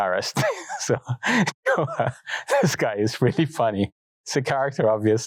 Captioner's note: laughs